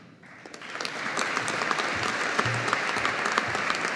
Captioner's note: audience applauding